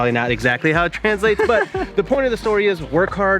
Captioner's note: laughing